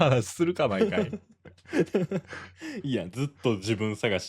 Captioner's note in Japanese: 笑い